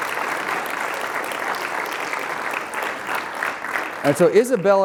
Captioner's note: applause